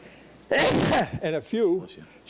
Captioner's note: John sneezes